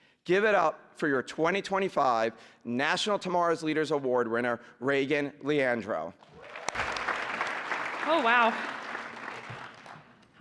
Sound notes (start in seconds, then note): 6.2 applause